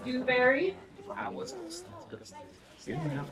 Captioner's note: people chatter